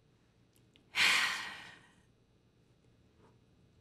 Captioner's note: sighs